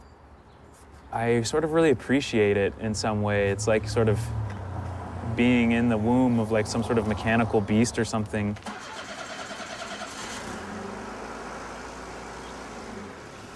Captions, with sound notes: and I sort of really appreciate it in some way. It's like, sort of, being in the womb of like some sort of mechanical beast or something. (engine starting)